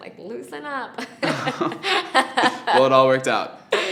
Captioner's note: laughing